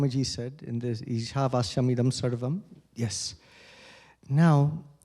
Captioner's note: non-english